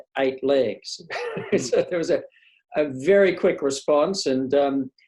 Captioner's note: laughs